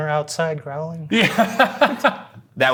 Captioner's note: laughs